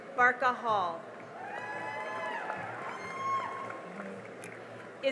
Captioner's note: cheering and applause